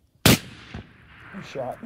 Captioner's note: gun firing